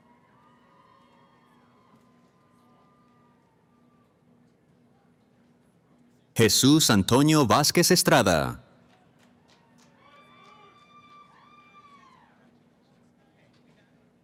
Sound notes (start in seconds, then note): 0.0 cheering; 10.0 cheering